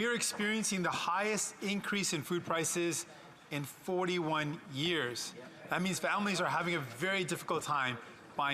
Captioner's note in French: voix de l'interprète